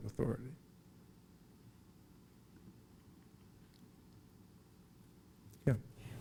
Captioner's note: silence